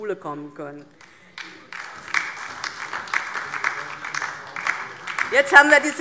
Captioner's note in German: Beifall DIE LINKE und vereinzelt SPD